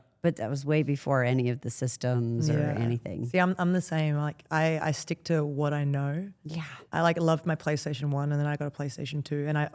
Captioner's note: none